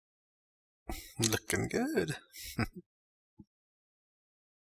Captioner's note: chuckling